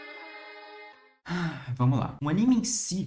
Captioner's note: dramatic sigh